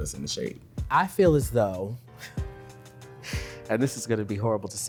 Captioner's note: laughs